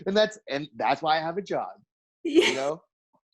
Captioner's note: giggles